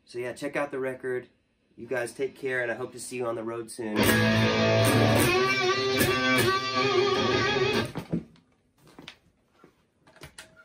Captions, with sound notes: So yeah check out the record. You guys take care and I hope to see you on the road soon. (electric guitar plays) (footsteps)